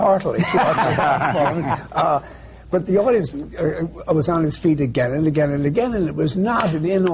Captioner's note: laughter